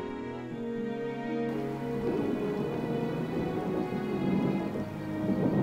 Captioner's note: thunder crashing